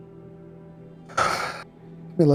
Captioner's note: sigh